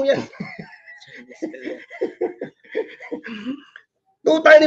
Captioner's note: laugh